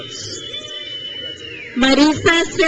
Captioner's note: crowd cheers